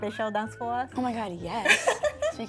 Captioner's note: laughs